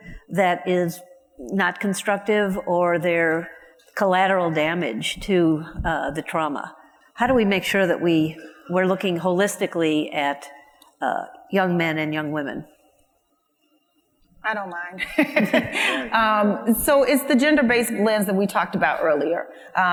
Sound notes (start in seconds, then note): 15.0 laughs